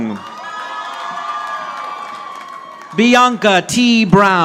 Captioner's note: audience applauding